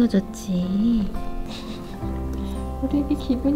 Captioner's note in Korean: 웃음